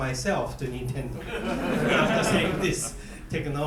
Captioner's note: students laughing